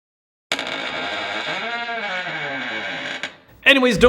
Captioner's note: squeaking